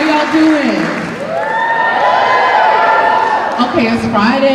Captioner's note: cheers and applause